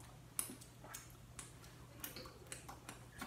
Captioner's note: licking fingers